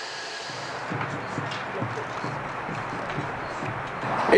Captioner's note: ambient chatter